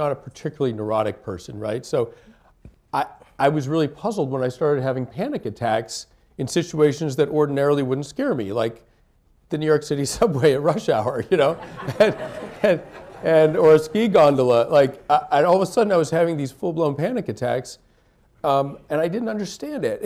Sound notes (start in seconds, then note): 11.4 laughter